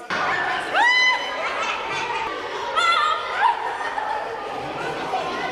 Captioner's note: hooting and laughing